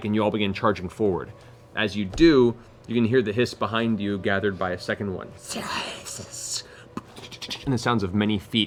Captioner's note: hissing